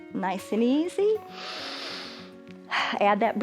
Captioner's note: inhales and exhales